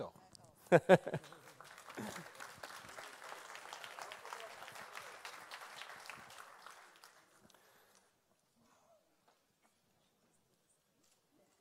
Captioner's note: applause